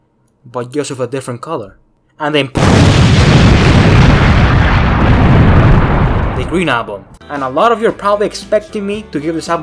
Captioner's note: boom